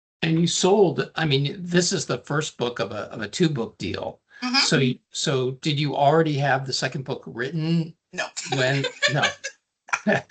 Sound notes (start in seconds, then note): 8.2 laughing; 8.3 chuckling